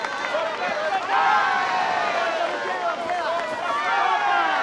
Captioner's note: cheering